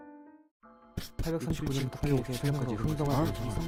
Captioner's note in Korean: 중얼중얼중얼중얼중얼중얼중얼중얼중얼중얼중얼중얼중얼중얼중얼중얼중얼중얼중얼중얼중얼중얼중얼중얼